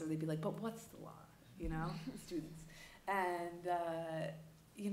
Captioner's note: laughter